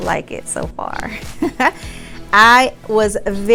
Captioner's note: chuckles